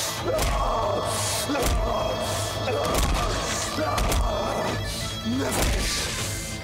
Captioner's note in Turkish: Bağırıyor; Bağırarak yumruk atıyor